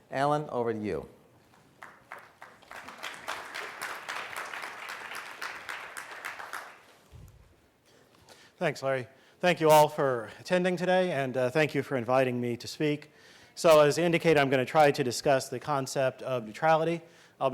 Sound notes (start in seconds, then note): 1.5 audience clapping